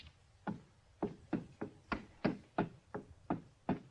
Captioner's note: footsteps thudding